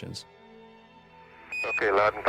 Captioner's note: radio transmission